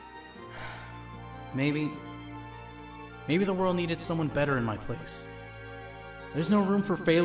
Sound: he sighs

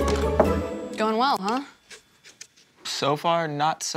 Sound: knocking on door

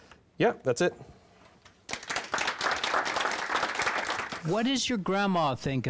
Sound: audience clapping

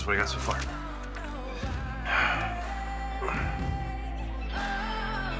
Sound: sighs

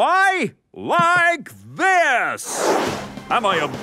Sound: whooshing

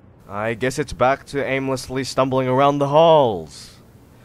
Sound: none

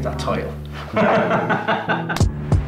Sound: laughing

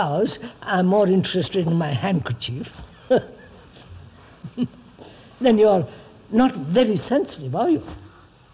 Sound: laughs

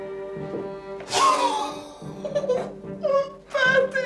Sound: chuckles

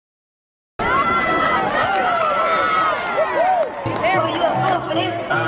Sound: cheering

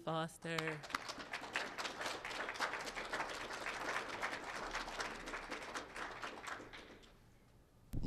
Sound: applause

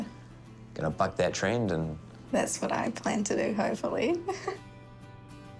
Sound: chuckles

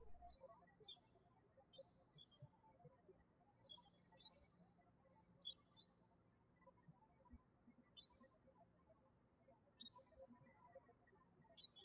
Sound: bird chirping

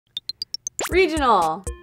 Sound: digital blips

